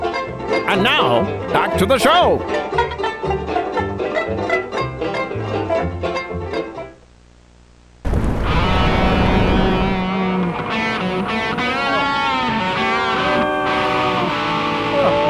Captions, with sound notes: And now, back to the show! [ERUPTING SOUNDS] [GUITAR RIFF] [INTERMITTENT SCREAMING]